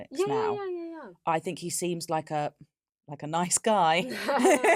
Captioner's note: laughs